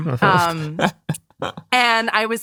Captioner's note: laughing